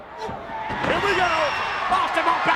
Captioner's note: body thudding